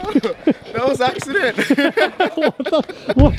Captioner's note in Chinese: 笑聲